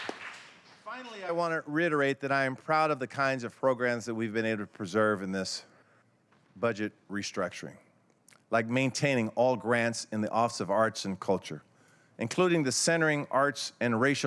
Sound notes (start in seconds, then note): 1.9 applause